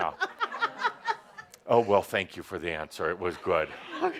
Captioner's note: laughter